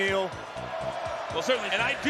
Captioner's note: crowd